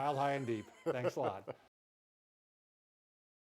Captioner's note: laughs